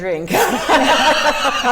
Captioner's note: laughing